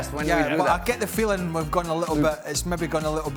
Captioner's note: laughter